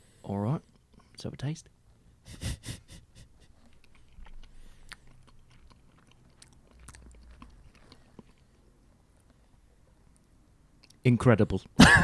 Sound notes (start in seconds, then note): 5.2 chewing